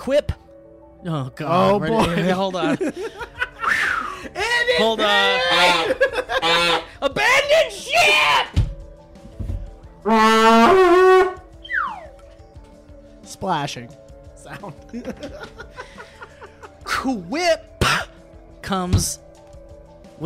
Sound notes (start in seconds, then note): 5.2 two horn honks; 11.6 slide whistle